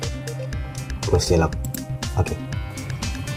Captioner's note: click